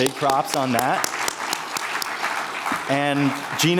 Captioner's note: everyone applauding